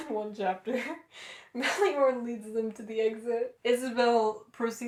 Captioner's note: laughter